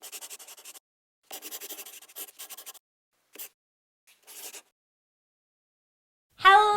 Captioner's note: the sound of a pen scratching